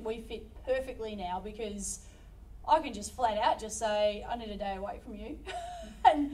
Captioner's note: laughs